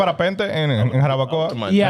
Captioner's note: speaking Foreign Language